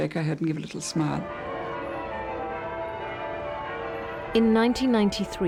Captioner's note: church bells ringing